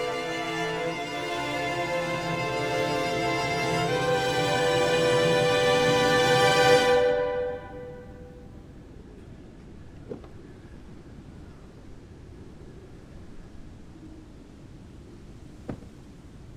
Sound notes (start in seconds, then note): 8.3 wind blowing